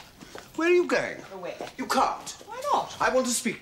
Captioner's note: none